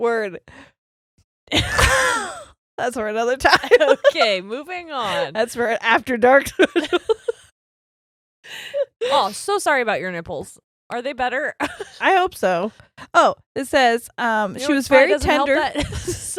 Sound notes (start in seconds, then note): 1.5 laughs quietly